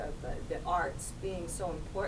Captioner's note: none